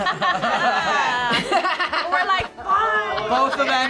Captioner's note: group laughs